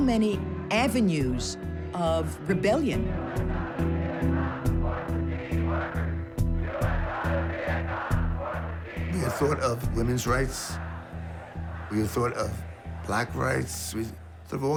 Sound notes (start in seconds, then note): 3.7 crowd chanting; 6.4 chanting